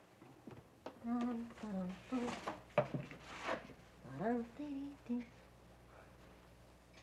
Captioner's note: Martha hums